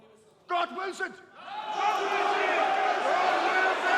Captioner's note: crowd shouting